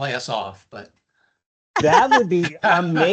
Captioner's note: chuckles